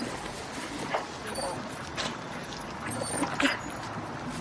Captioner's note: dog whining